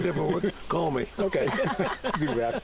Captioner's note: laughter